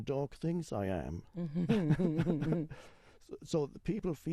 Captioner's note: both laugh